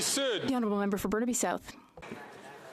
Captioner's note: some Applause